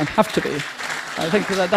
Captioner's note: applause